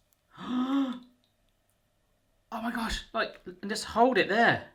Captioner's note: gasps